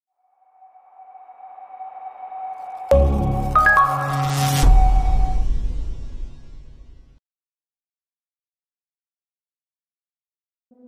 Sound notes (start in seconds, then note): 2.4 chime